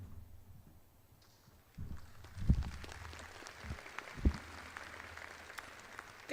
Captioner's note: audience applauds